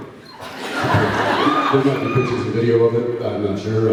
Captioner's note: laughs, cheers